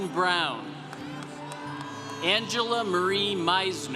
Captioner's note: congregation cheering